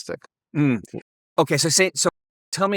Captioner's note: hums